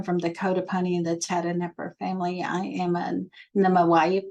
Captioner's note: spoken in Comanche language